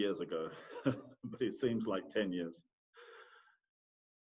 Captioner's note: laughs